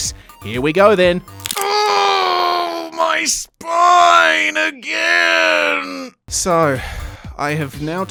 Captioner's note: sound of bones shattering